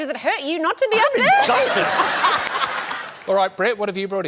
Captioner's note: laughter